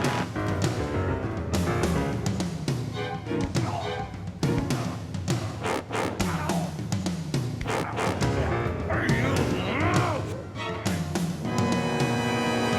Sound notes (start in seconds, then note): 0.0 high-tension music; 6.1 Preston grunting